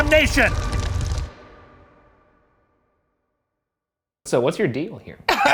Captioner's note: silence